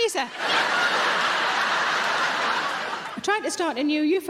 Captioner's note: audience laughing